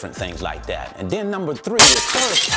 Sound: glass crashing

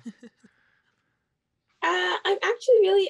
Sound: chuckles

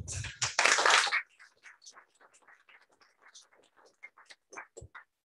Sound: applause

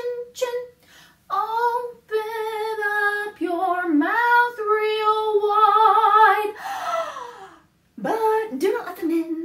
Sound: gasp

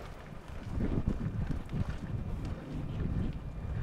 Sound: storm

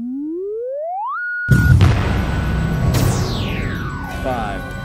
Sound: sound Effects

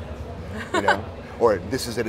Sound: laughing

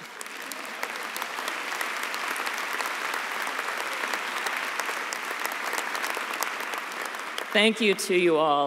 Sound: applause

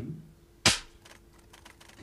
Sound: gun pops

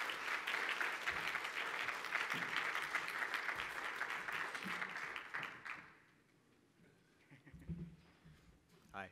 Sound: applause

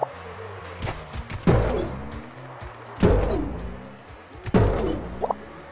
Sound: jump sound

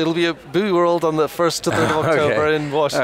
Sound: laughs

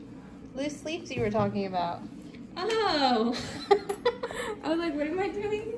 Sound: laughter

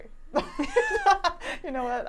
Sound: laughing

